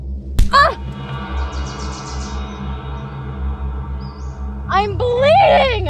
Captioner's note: fist thuds; Janet groans